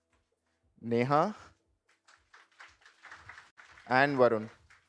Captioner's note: applause